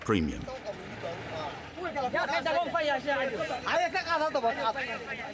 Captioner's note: all speaking foreign language